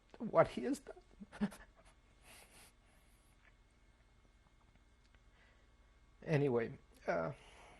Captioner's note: sob; pauses for 3 seconds; pauses for 6 seconds